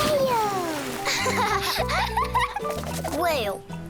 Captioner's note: both laughing